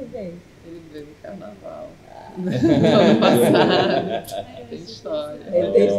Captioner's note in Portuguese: risos coletivo